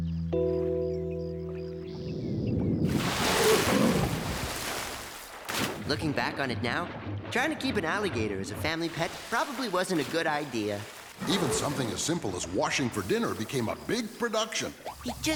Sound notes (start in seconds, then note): 1.7 rumbling; 3.7 splash